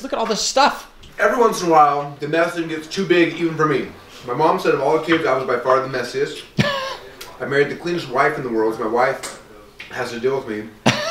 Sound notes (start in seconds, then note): 6.6 laughs